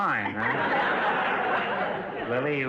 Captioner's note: audience laughter